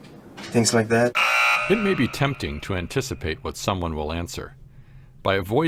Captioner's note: A buzzer sounds